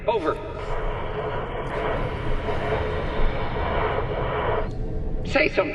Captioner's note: static